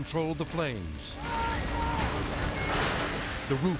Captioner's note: people shouting; fire crackling and whooshing